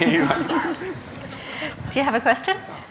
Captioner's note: laughter